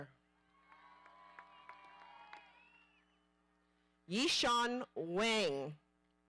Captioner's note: audience applauding